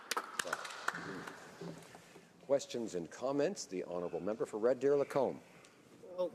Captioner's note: applause